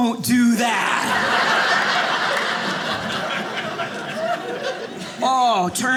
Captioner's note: audience laughing